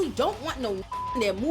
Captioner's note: beep